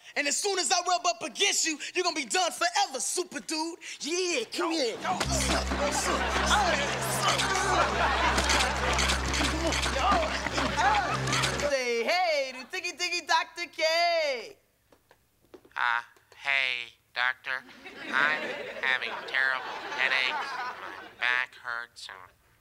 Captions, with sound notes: And as soon as I rub up against you, you're gonna be done forever, Super Dude! - Yeah, come here! - Oh! [grunting] Oh! Oh! Say hey to Tiki-Tiki Dr. K! Uh, hey Doctor. I'm having terrible headaches, my back hurts and